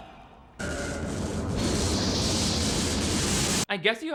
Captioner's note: electricity crackling